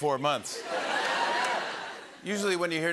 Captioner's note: laughter